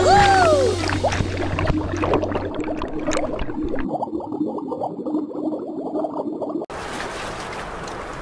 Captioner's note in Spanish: Sonido de agua; Sonido de marea